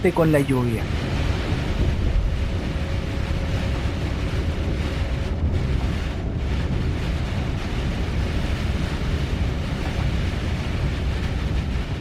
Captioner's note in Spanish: sonido del bus ‘Van Hool Astromega’ - ‘Scania’, y la lluvia en ‘Japón’